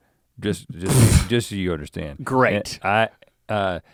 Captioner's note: Link sputters